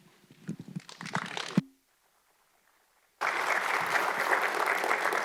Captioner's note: audience clapping